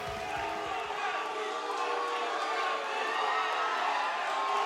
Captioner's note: mixed crowd reaction